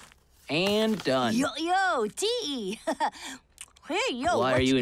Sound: laughs

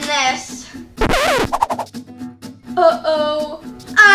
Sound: noise signal

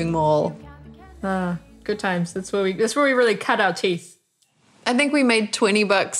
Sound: sighs

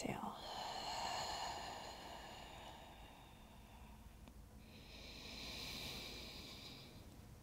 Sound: heavy breathing

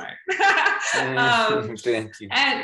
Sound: laugh

